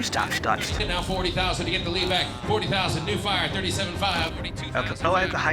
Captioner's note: rapid auctioneering